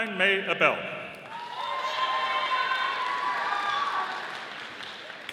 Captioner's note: audience applauding